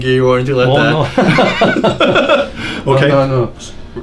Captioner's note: laughing